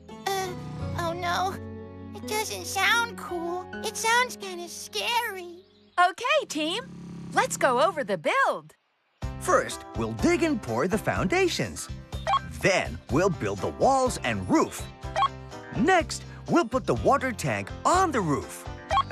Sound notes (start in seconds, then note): none